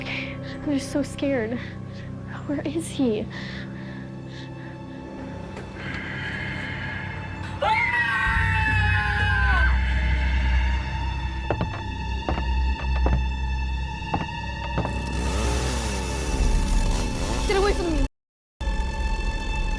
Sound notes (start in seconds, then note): 7.3 screams; 14.9 chainsaw